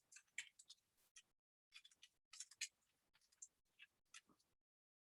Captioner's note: keystrokes typing